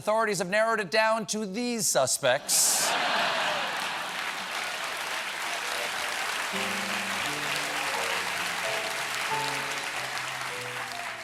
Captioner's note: laughter; cheers and applause